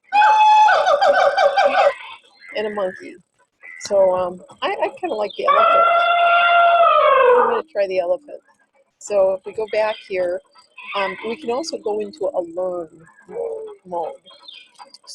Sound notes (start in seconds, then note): 1.1 monkey chattering; 5.5 elephant trumpeting